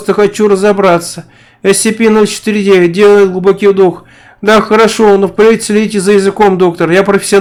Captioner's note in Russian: Делает глубокий вдох